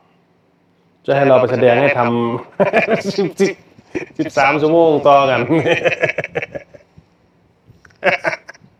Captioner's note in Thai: เสียงหัวเราะ